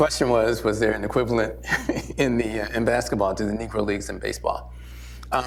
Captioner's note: laughs